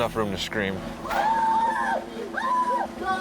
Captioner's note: people screaming